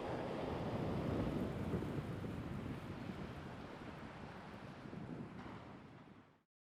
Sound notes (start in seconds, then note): 1.4 waves splashing